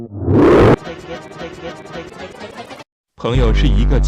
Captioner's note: tuba distorts wildly; "stake-ekats" stuttering; male voice speaking in Russian